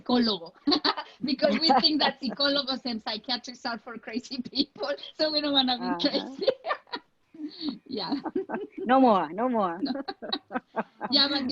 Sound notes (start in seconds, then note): 0.6 laughs; 2.3 speaks foreign language; 7.4 laughing; 10.5 laughing